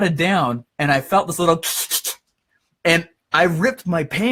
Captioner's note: makes tearing sound